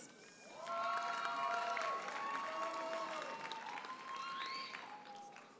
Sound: audience cheers and applauds

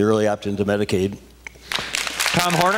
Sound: applause

